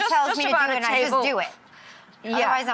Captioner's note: overlapping chatter